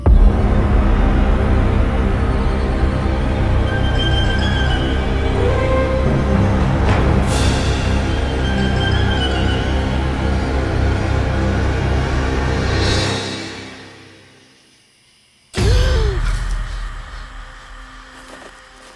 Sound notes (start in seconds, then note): 0.0 otherworldly music; 15.6 Eli gasps